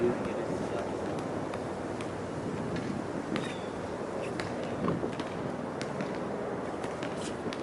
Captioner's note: basket ball tapping; birds chirping